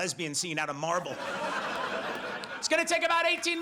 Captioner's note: audience laughs